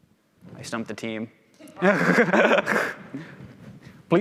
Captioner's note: laughs